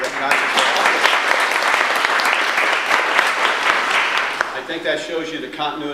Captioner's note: audience applause